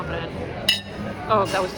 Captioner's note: glasses clink louder